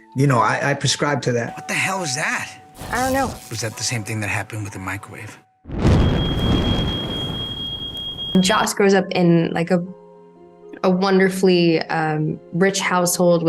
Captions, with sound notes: And, you know, I prescribe to that. What the hell is that? - I don't know. - Was that the same thing that happened with the microwave? (fire whooshing) (alarm blaring) - Jos grows up in like a wonderfully rich household